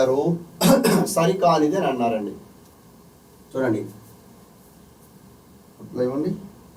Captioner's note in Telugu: గొంతు సవరించుకోవడం